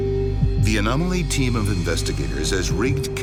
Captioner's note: voiceover